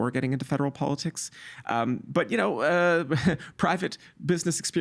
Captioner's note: chuckling